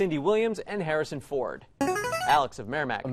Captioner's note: player buzzer